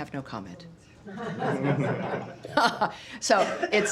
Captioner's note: laughter